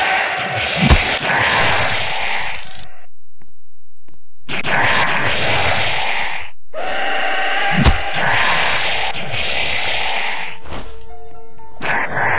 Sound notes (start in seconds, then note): 4.6 rake screaming